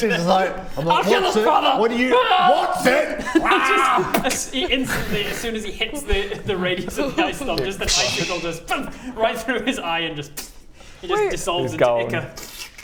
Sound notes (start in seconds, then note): 10.4 pffph